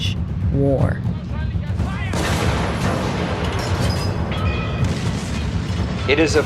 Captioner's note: soundbite of explosion